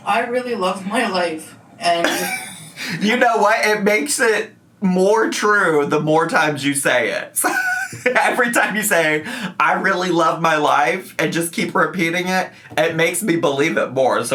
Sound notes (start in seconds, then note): 2.0 laughs; 7.4 laughs